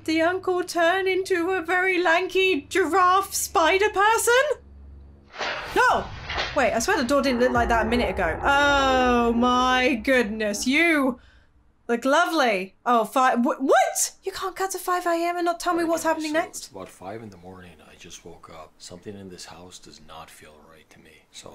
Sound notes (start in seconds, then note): 5.5 door opening; 8.6 low groaning